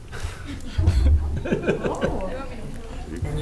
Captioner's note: laughing